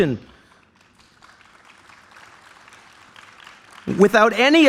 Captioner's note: applause